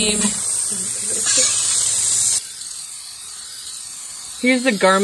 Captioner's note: chuckling